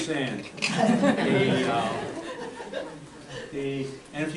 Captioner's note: audience laughter